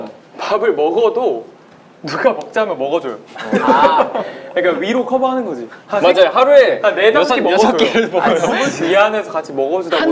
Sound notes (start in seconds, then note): 3.3 laughing